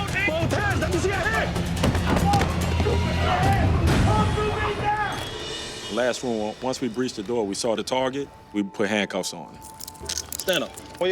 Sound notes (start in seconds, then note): 2.0 yelling